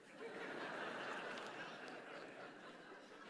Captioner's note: laughter